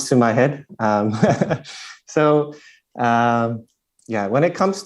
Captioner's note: questioner Laughter